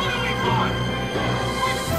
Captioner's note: crowd